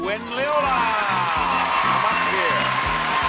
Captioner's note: bell chiming